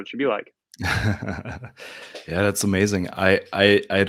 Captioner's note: laughs